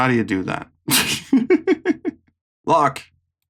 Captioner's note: giggles